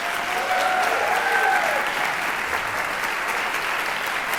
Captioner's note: audience cheering